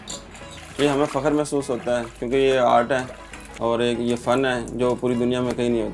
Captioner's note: speaking foreign language